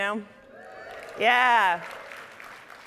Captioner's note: audience cheering